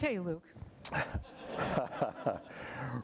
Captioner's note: laughter